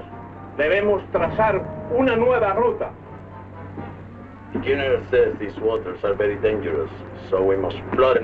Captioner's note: General Tostada speaking in Spanish